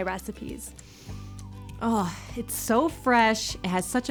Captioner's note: inhales